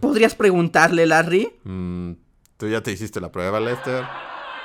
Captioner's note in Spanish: risas; aguantando risa nuevamente